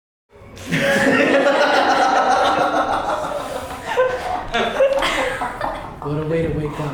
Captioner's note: laughter